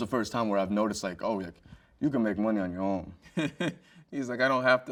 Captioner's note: chuckles